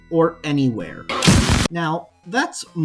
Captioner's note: loud Bursting Noise